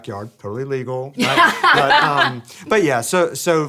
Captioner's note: laughing